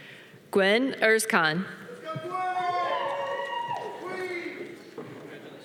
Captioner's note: audience cheering